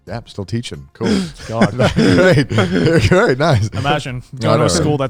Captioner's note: laughing